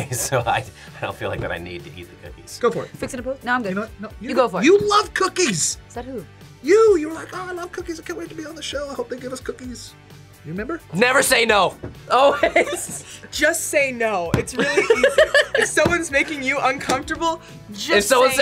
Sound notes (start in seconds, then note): 12.1 laughs; 14.6 laughs